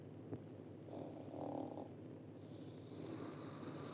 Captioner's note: Glenda snores